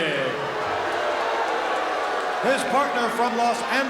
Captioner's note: crowd boos